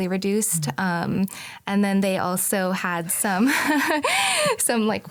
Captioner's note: chuckles